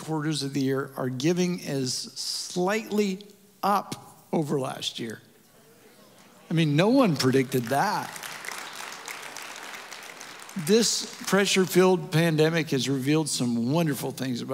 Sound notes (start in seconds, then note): 7.2 audience Applause